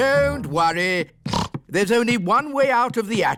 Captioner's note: snorts